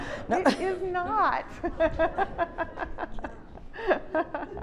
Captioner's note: laughs